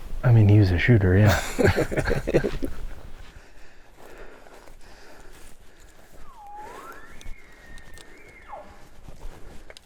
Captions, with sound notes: I mean, he was a shooter, yeah! (laughing) (Caller bugling)